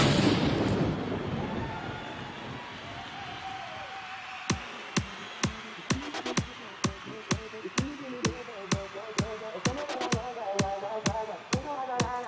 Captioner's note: cheering and applause